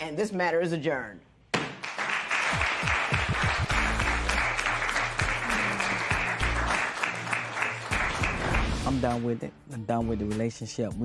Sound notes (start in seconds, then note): 1.7 applause